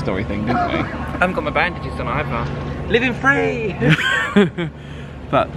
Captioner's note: both laugh